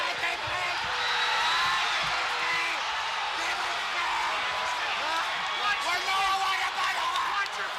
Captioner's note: crowd chatter